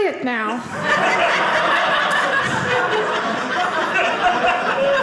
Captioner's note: audience laughing